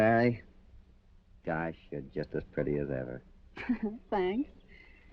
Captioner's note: chuckling